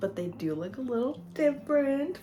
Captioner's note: none